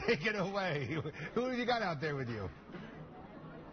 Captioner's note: laughter